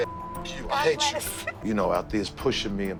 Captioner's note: laughs